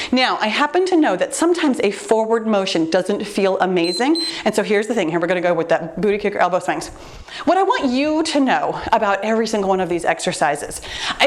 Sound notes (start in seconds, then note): 3.8 timer beeps